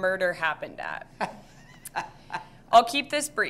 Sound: laughs

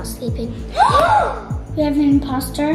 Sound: children gasping

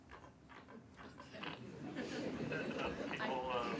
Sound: laughter

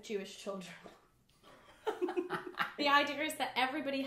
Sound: both laugh

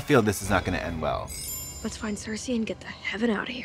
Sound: twinkling

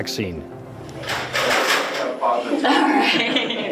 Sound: metallic clattering; group chatter; nurse laughing

